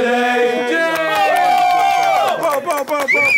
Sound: applauding

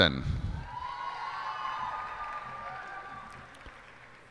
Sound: cheers and applause

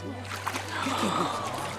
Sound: gasping

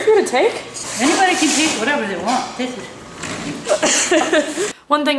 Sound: laughs

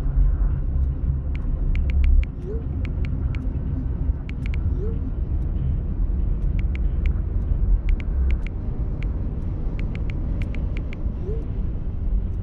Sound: typing noises

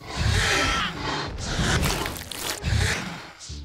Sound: dinosaur growls

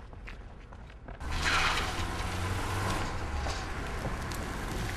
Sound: car engine revving

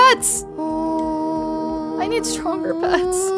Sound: humming

